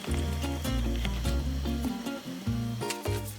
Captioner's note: sudden conch